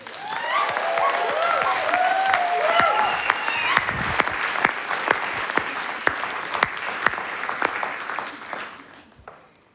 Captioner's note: applause and Cheers